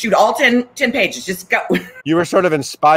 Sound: laughs

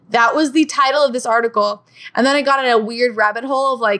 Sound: none

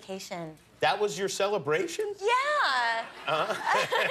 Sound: laughter

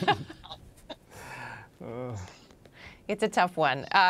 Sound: laughs

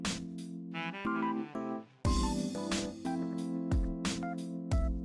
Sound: female snap

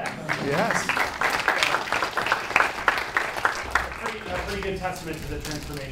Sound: class applauding

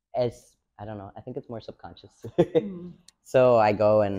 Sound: laughs

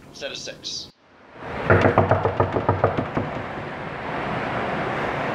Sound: knocking

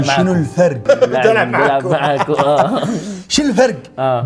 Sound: laughter

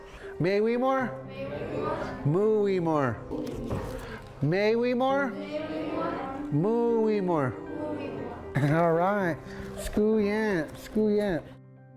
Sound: speaking Yurok

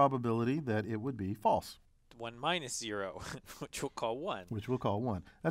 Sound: laugh

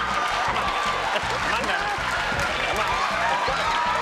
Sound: audience laughing; upbeat music

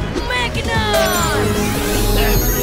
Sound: Mechanizer beeps, whirrs

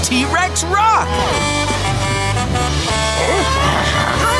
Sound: Blaze honking

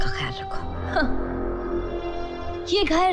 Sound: scoffs

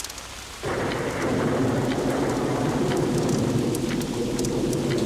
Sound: thunder rumbling

